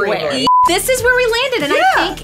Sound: beeps

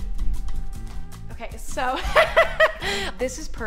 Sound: laughs

